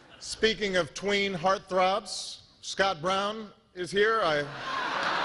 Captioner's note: laughter